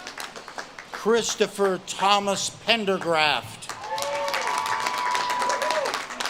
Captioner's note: audience claps and cheers